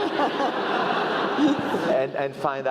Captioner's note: laugh